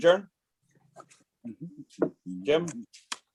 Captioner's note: humming